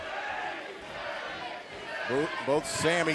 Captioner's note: fans chanting